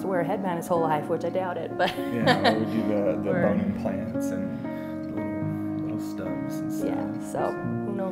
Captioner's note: laughter